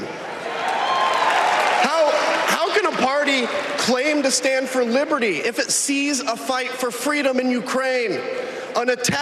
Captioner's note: applause